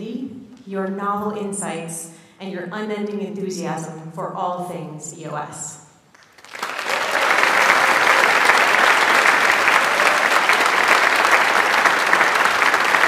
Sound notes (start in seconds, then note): 6.1 audience applauds